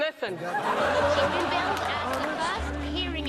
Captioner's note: crowd laughing